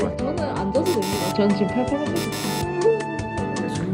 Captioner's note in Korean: 거짓말 삐빅